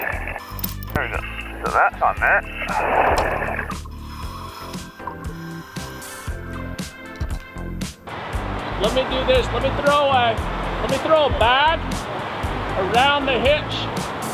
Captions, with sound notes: There you go, well that's on there. (serene music) (apparatus inhales) - Let me do this, let me throw away? Let me throw a bag, around the hitch,